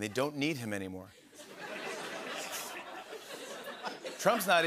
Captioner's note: laughter